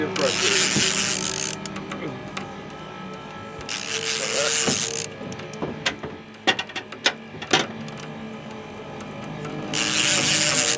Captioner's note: reel cranking